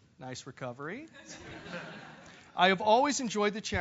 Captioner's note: laugh